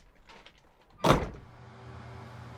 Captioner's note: closes door